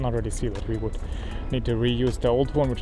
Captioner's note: engine